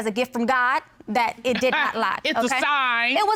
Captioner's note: chuckles